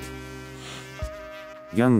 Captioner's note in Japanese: 息を吸う